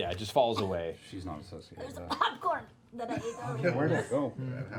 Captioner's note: coughing